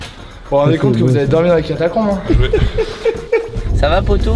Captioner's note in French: rire